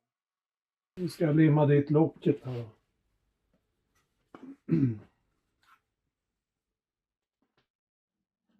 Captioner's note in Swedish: harklar sig